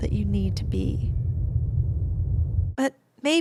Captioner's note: rumbling of a new world being born, deafening silence